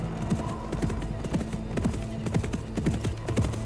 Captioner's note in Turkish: At nalı sesleri